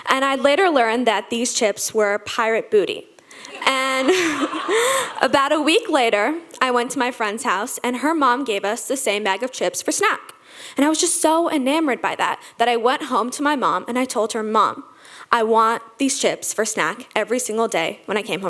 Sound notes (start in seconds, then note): 3.4 laughs; 3.5 audience laughing